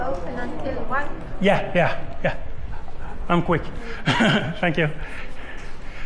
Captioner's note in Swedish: skratt